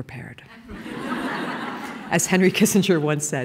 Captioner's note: laughing